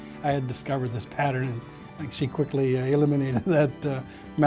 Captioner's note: chuckling